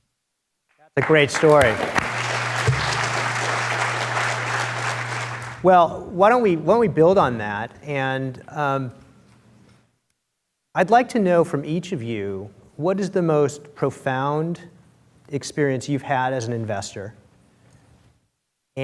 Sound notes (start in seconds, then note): 0.9 applause